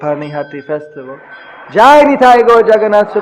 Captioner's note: rings bell from altar